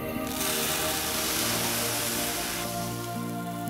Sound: sizzling

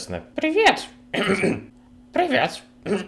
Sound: cleans throat

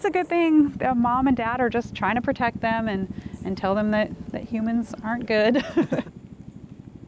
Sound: laughs

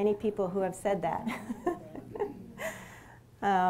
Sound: laughs

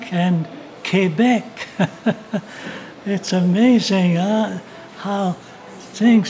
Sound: laughs

